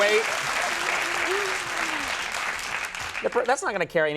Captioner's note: audience applauding